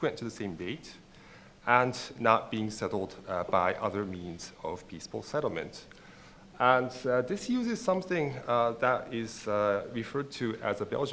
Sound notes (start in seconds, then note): none